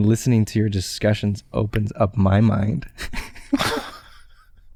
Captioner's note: chuckles